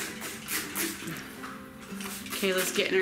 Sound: loud water spritzing

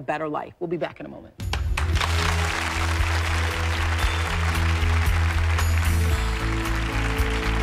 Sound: applause

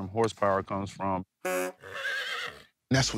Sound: horse neighs

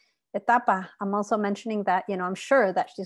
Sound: speaking Spanish

